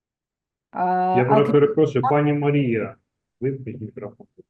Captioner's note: non-english speech